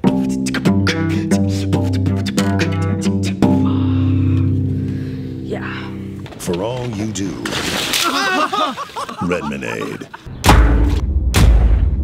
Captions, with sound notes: (cello music) - Yeah. - [Voiceover] For all you do, Redmanade.